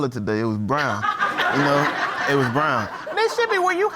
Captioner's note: audience laughs